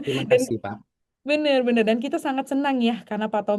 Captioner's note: tertawa; berdehem